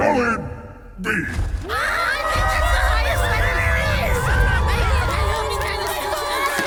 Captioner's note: kobolds cheer for an above average performance